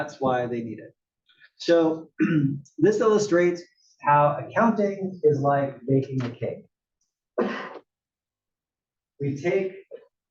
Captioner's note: cough